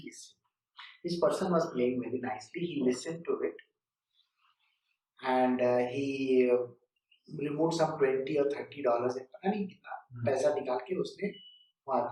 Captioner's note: Hindi